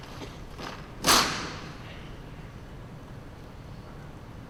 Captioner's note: gunfire